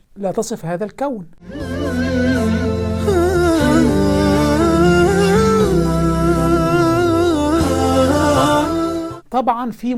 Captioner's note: logo and sound effect